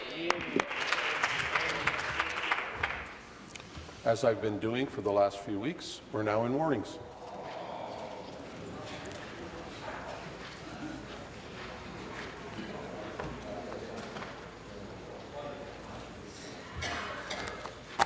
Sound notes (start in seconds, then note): 3.7 applause